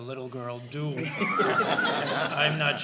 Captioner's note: laughter